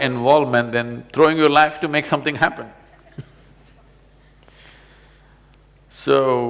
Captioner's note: laughs